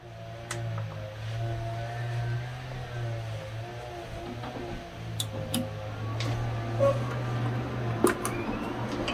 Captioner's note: intense lawnmowing sounds